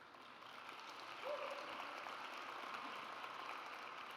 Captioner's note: audience applauds